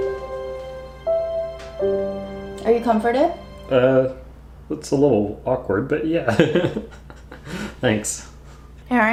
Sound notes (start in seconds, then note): 0.0 slow music; 6.3 laughs